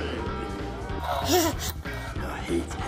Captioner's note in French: rires bébé